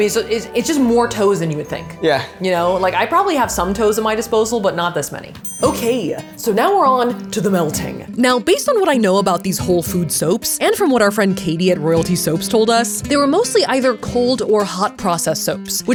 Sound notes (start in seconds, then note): 5.4 bell ringing